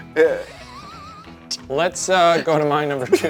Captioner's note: laughs